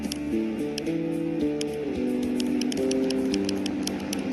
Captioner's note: turns engines back on